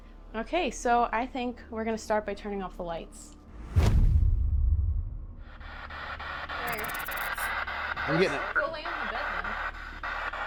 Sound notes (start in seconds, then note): 5.8 spirit box scanning